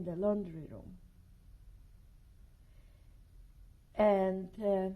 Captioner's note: pauses for 3 seconds